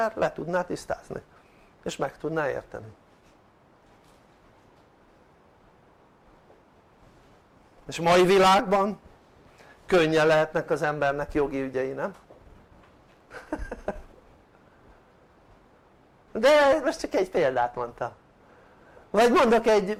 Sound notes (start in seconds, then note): 13.3 laughter